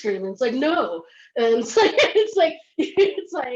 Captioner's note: laughs